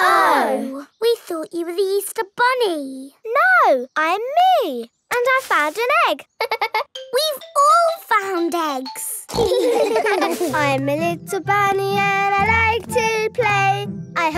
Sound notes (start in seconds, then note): 6.4 giggles; 8.8 snorts; 9.3 giggling